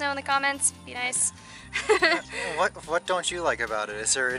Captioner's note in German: Gelächter